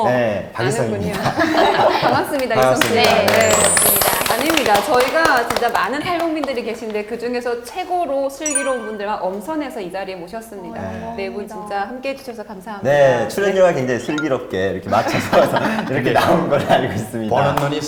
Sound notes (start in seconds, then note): 3.7 clap